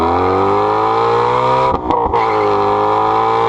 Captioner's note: car engine